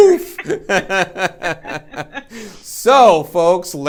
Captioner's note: laughing